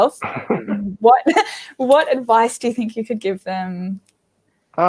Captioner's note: both laugh